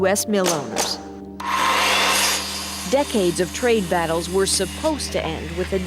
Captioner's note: buzzing